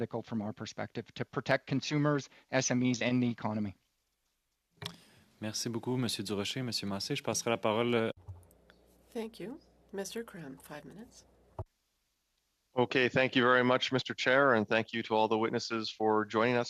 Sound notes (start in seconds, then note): 9.3 speaking French